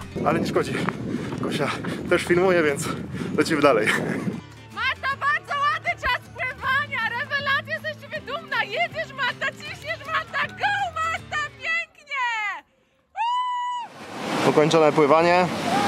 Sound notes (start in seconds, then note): 4.7 congratulatory screams from a satisfied friend